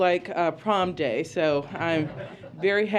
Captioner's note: laughter